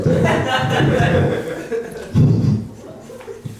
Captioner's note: laughing